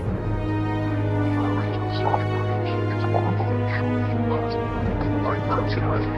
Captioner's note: dramatic music; mysterious, whispering voice